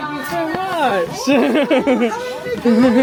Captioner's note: laughing